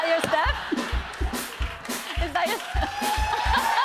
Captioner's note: laughter